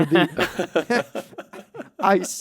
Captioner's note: laughs